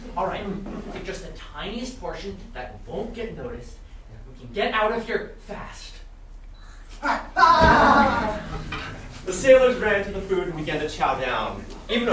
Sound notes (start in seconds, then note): 7.4 loud eating noises